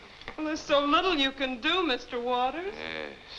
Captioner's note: none